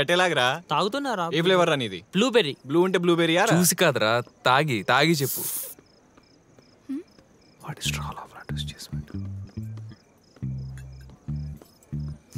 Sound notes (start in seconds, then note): 7.2 whispering